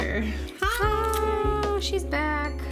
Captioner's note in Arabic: يصيح بهدوء